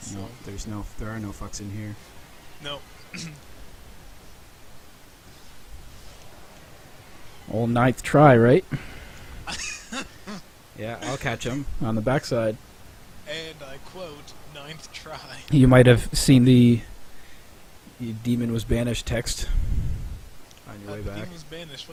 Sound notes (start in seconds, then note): 3.1 chuckling; 8.7 laughing